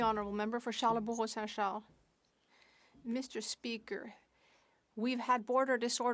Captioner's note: speaking French